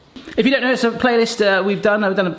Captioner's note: none